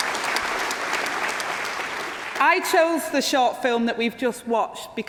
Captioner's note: applause